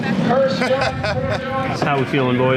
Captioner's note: laughs